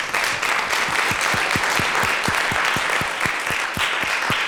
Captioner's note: applause